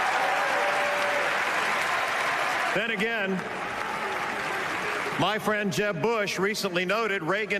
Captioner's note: cheers and applause